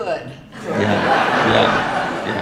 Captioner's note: audience laughing